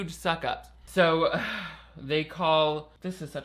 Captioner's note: sighs